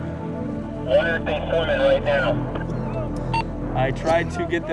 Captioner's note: insructor on radio